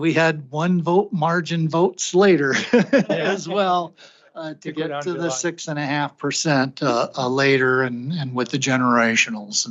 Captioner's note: laughter